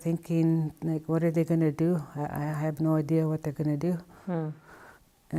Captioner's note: hmm